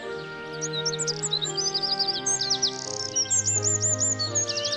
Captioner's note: birds chirping